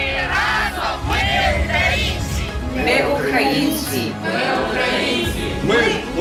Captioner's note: people repeating "We're Ukrainian!"